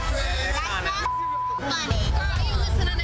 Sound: beep

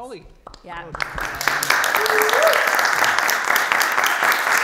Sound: everyone clapping

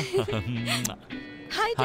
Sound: kissing

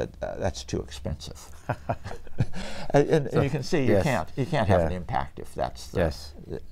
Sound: laughs

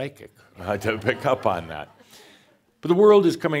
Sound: a few chuckles; more chuckles

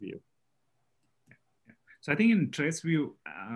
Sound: calm Voice

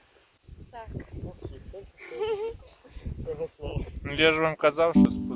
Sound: laugh

